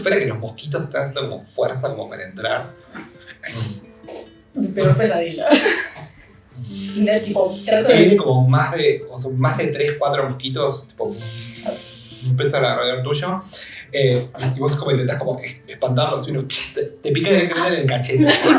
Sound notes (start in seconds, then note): 11.2 buzzing